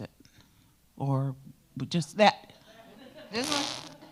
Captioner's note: attendees laugh; blows raspberry